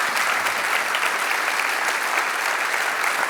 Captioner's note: applause